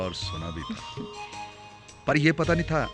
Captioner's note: chuckling